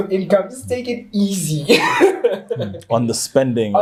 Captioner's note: laughs